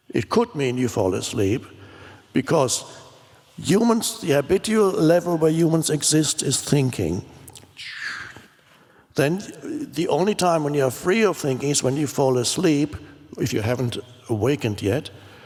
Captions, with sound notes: It could mean you fall asleep because humans, the habitual level where humans exist is thinking. (shushes) Then the only time when you are free of thinking is when you fall asleep, if you haven't awakened yet.